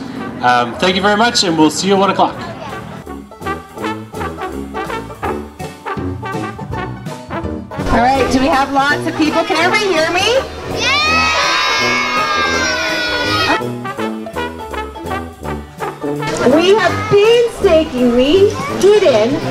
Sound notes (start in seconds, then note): 10.4 crowd shouting